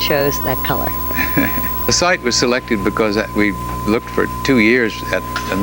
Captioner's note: laughs